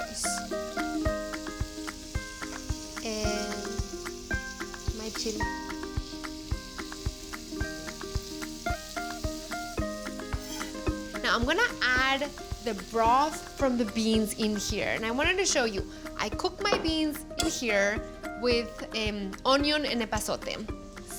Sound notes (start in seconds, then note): 0.2 sizzling; 5.9 sizzling